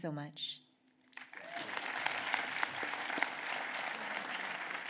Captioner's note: applause